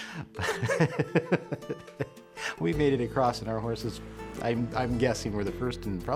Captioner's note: laughter